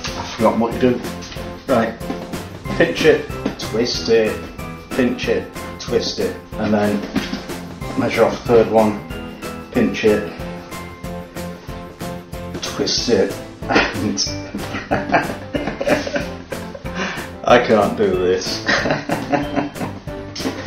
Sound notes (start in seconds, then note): 14.7 giggling; 18.6 giggling hysterically